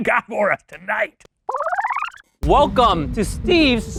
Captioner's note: film rewinds